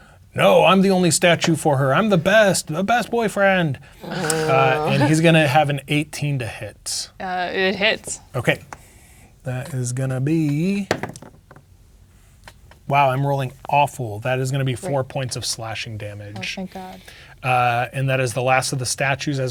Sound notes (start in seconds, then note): 4.0 players groaning; 10.8 dice rolling